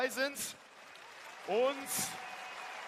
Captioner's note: applause